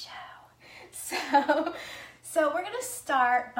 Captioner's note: laughs